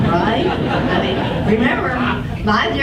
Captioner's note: audience laughs